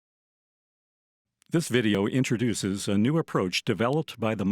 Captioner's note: voiceover